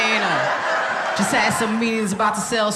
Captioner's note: audience laughing